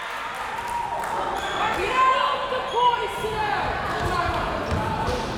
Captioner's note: crowd members shouting